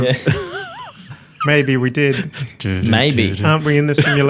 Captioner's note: laughs